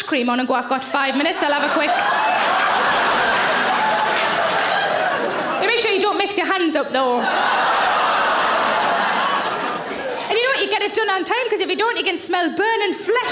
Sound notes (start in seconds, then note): 1.8 audience laughing; 7.0 audience laughing